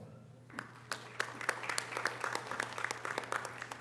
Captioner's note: audience applause